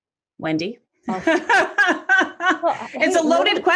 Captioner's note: laughing